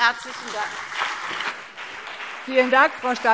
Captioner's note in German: Beifall CDU und BÜNDNIS 90/DIE GRÜNEN